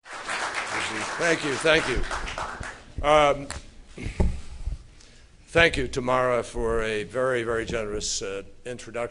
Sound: applause

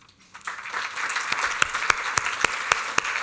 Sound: applause

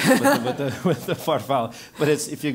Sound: laugh

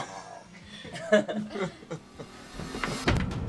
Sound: laughing; soft dramatic music

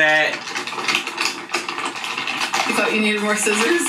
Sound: paper rustling

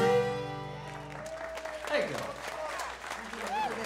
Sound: applause

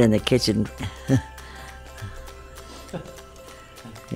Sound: both laugh

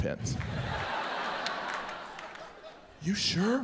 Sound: audience laughs

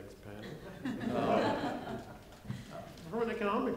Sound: laughing

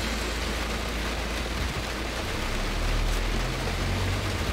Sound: rain hitting outside of car

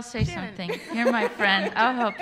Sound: laughter

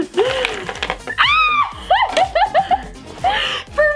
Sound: laughs

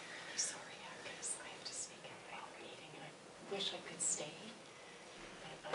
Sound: a voice whispering, excusing themselves

